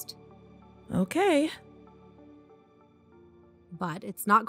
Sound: music stops

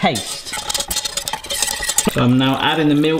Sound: whisk clatters

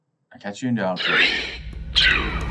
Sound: ghost voice

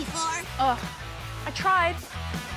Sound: scoffs

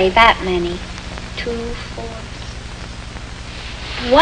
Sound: counting softly

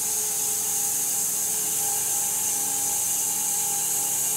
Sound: saw whirring

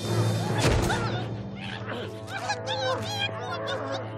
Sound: muffled screaming

